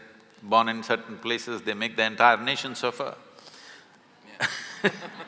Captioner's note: laughter